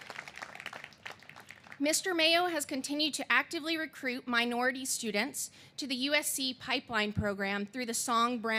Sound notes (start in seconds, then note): 0.0 applause